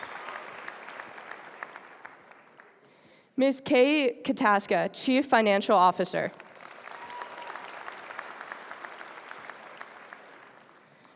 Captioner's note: applause